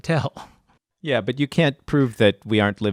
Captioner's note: laughs